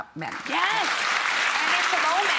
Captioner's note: audience clapping